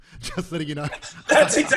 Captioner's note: laughs loudly